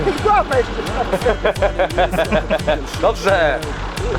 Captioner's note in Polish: śmiech